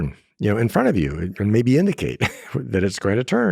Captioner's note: laughs